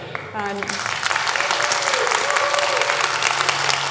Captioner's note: audience applauds